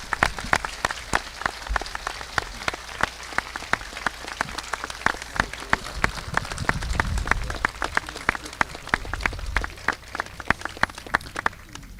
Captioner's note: applause